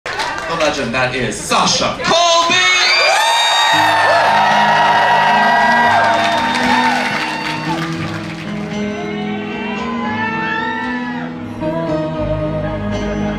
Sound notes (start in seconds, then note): 3.2 crowd cheers and apllauds